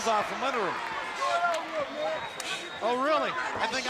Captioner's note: crowd chatter